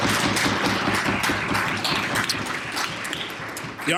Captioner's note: applause